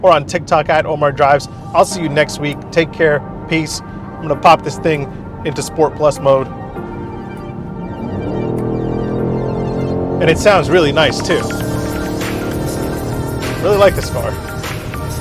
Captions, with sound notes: or on TikTok @omardrives. I'll see you next week. Take care. Peace. I'm gonna pop this thing into sport plus mode. (car engine revving) And it sounds really nice too. (upbeat music) I really like this car.